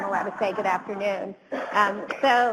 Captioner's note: audience chuckles